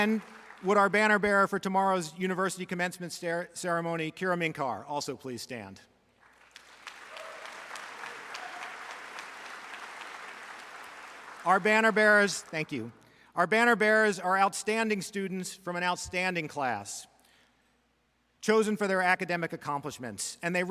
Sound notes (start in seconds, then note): 6.2 audience applauds; 6.6 audience cheers